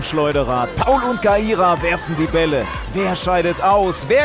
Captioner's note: Anfeuerrufe